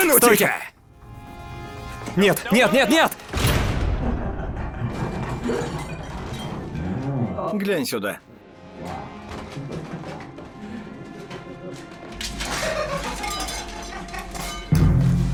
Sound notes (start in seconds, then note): 3.2 door slams; 9.5 laughter